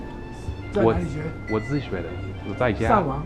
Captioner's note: mandarin